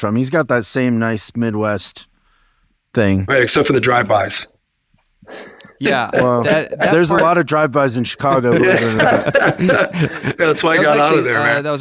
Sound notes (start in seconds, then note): 7.9 laughing